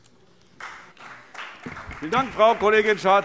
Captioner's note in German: Beifall Freie Demokraten